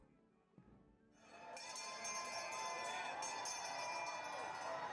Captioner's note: bell ringing